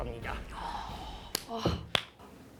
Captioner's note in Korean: 감탄